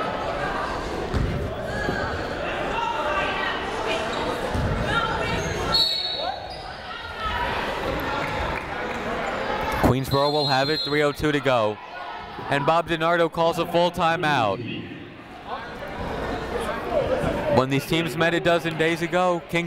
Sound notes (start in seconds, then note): 0.1 people shouting in the crowd; 5.7 whistle tweeting; 8.4 people shouting in the crowd; 14.8 people talking in the crowd